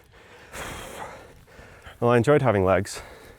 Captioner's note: sighs